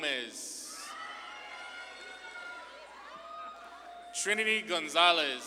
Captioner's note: audience claps and cheers